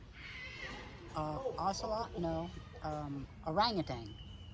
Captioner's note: none